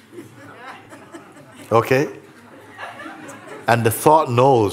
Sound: laughter

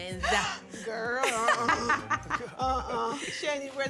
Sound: laughs

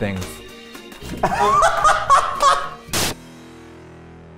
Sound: laughs

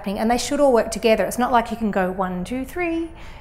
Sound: none

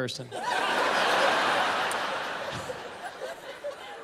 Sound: laughter

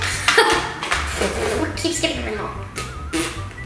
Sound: spitting

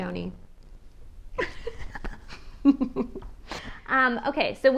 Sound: laughs

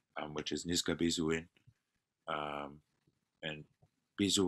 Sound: non-english speech

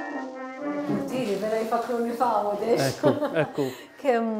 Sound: chuckles

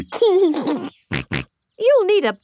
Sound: giggles and snorts

